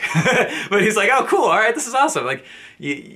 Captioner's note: laughs